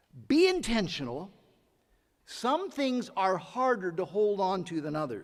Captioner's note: none